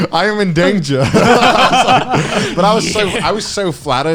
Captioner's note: laughing